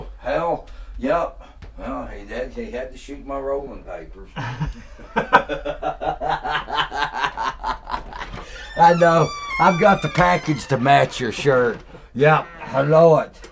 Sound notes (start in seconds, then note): 4.4 laughing; 5.4 hillbilly cackling